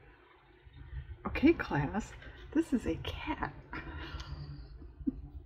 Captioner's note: laughs